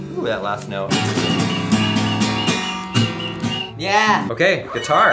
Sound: discordant strumming; whistling

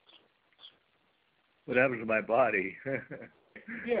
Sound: chuckles

